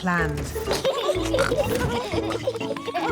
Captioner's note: both giggling